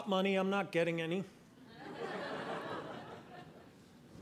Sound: audience laughing

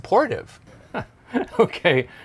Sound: laughs

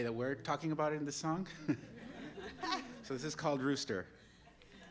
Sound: laughter

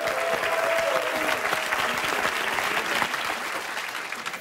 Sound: applause

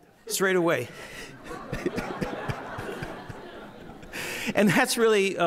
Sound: audience laughing

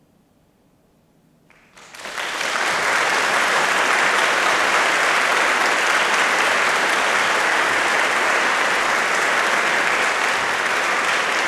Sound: applause

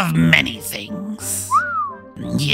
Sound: whistles

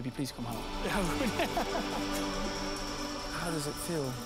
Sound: laughs

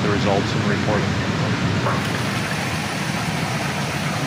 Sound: water whoosing

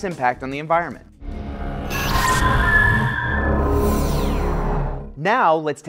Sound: sound Effects

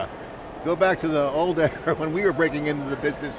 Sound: chuckles

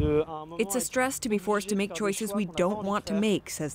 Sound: speaking Foreign Language

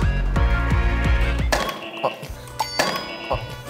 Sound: beep beep

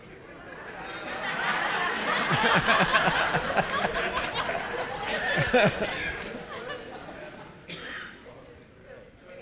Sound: laughter

